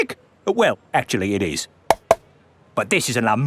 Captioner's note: taps